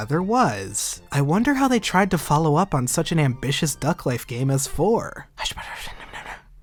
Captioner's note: whispering